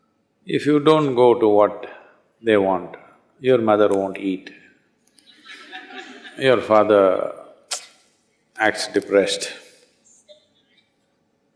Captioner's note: laughter